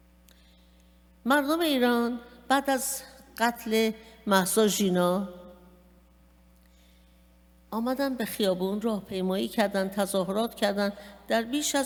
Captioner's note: speaking persian